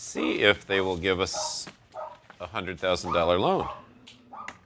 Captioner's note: barking